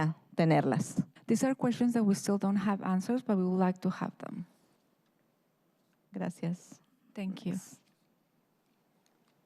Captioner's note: speaking in spanish